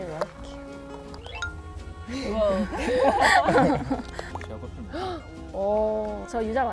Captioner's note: playfully